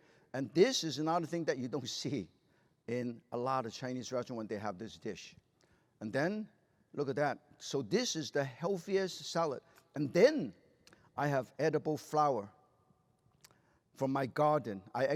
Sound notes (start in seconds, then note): none